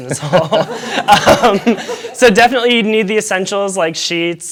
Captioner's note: laughter